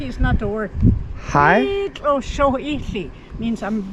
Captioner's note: speaking Gwichʼin